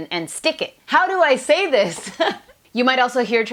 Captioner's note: laughs